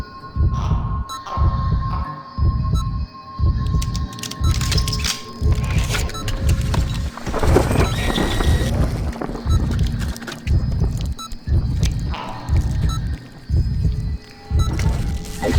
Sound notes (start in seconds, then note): 0.0 whirring of mechanical arms, heartbeat and beeping of EKG; 0.2 weird croaking, heartbeat and beeping of EKG; 3.4 clicking, whirring, a rolling thunderclap, heartbeat and beeping of EKG; 9.4 heartbeat and beeping of EKG; 13.4 wet, fleshy sounds, heartbeat and beeping of EKG